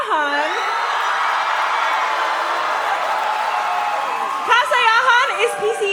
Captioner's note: cheering; applause